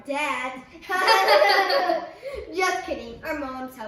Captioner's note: laughing